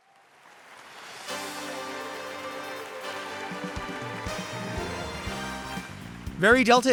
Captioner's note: audience clapping; upbeat bright music